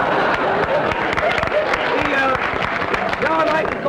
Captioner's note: audience laughter; applause